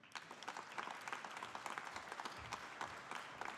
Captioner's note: audience applauding